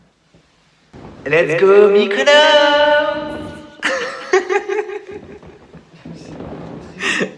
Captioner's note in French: rire